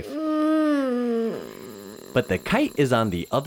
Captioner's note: defeated moan